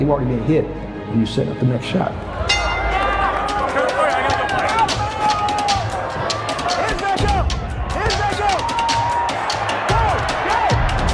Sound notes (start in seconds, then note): 2.4 audience shouting; 2.4 bell ringing; 7.7 audience cheering